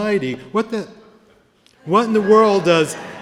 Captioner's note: laughter